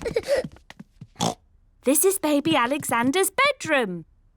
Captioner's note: oinks